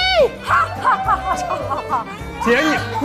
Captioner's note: haha